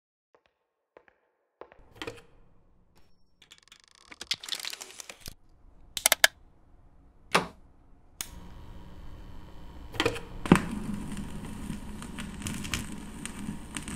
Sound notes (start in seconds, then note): 1.6 footsteps; 3.4 record player creaking; 5.9 clicking; 10.5 static crackling